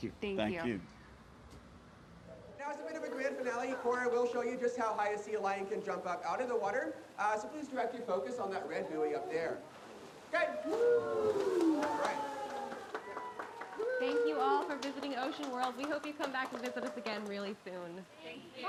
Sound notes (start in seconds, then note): 13.7 audience applauding; 13.7 audience cheering